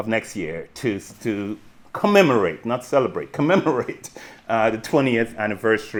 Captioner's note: chuckles